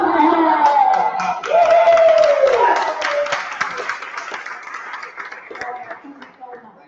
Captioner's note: applause